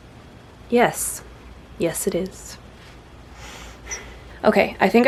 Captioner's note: small sigh